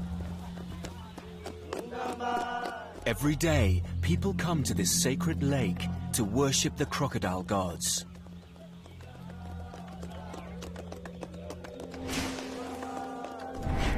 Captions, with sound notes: to worship the crocodile gods. (people chanting and clapping) As they pray at their shrine, the crocodiles watch on.